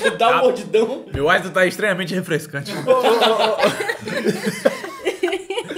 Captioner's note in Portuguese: risos; risos